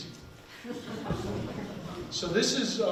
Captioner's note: people laughing